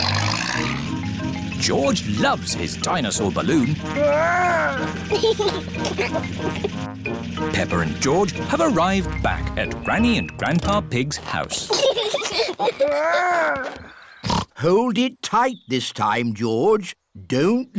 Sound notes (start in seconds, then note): 5.0 giggles; 11.6 both giggling; 13.8 snorts